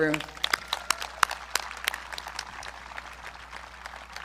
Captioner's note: audience clapping